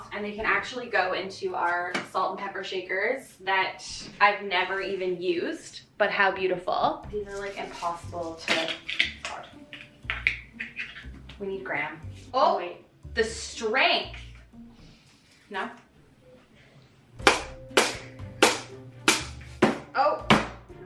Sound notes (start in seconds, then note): 8.7 containers rattling; 17.2 hammer thunking